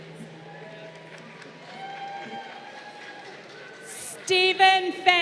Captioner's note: crowd cheering